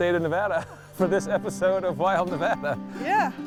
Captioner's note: laughs